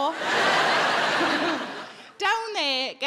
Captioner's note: audience laughing